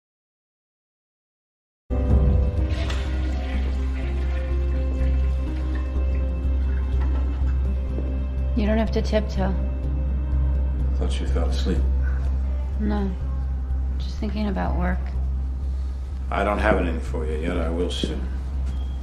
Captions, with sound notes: (toilet flushing) You don't have to tiptoe. Thought you fell asleep. No. Just thinking about work. I don't have anything for you yet. I will soon.